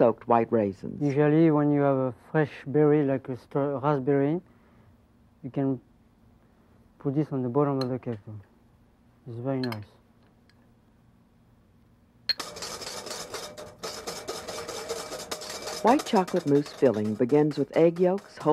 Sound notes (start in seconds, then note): 12.3 whisk tapping; 15.8 voiceover